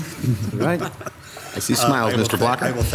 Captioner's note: laughing